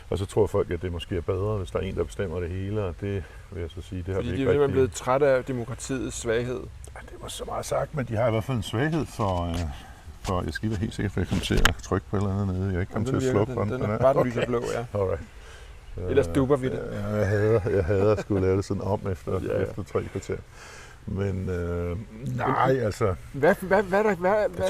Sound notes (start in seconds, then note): 16.8 arhhh